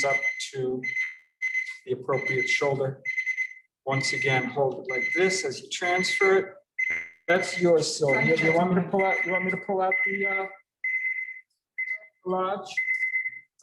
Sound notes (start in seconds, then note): 6.7 alarm chiming